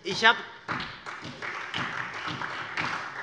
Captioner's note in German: Beifall